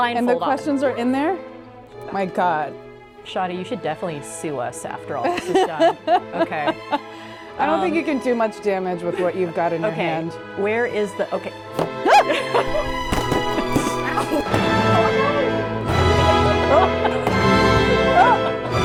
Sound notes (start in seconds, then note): 11.9 yelping; 12.5 pinata thumping; 15.0 dramatic symphonic music